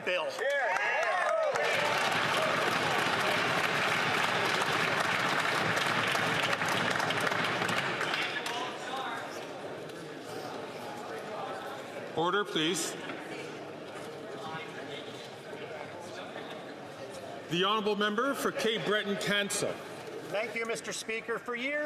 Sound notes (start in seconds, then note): 4.5 some Applause